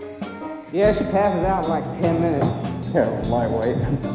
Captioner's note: laughing